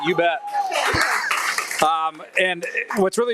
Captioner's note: audience applauding and cheering